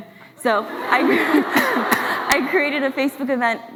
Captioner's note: laughs